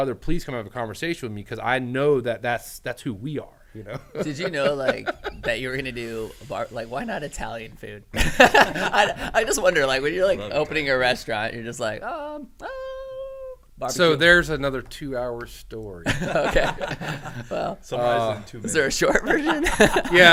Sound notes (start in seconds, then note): 3.8 laughs; 8.2 laughs; 16.0 men laughing